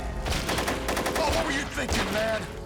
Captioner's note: guns firing